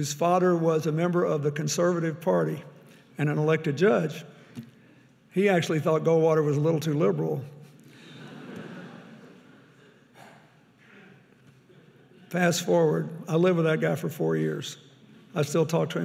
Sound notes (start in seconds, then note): 7.9 audience laughing